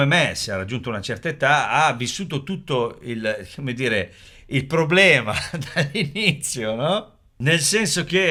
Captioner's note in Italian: risate